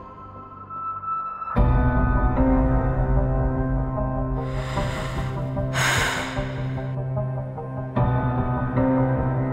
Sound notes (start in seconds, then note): 4.4 exhale